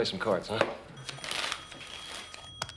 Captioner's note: telephone rings